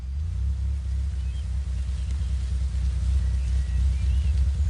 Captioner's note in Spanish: Sonido del motor